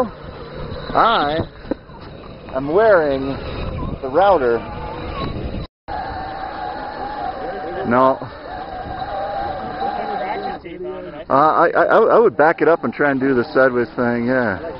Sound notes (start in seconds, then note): 7.8 robot motor noise